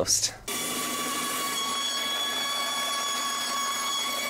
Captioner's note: saw whirring